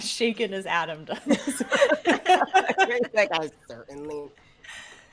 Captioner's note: all laughing